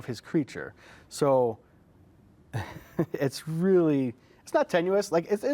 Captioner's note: chuckles